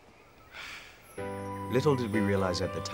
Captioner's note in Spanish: Suspiros